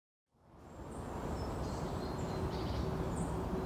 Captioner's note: wind blowing